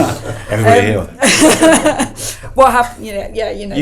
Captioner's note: laughs